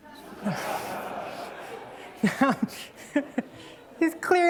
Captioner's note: laughter